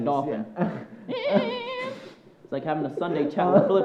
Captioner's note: worker imitates dolphin screeching